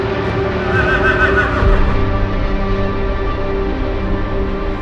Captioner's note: horse whinnies